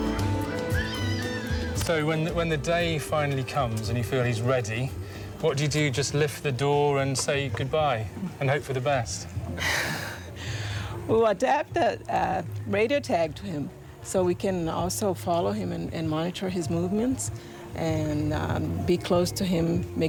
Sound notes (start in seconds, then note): 9.6 sighs